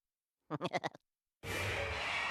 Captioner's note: laughing nervously